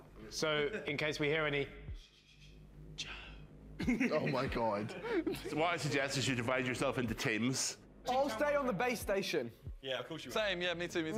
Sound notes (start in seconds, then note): 3.8 laughs